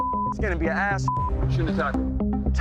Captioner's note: beep